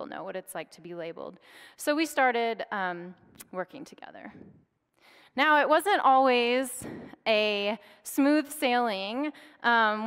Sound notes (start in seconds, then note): none